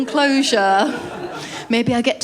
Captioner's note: laughter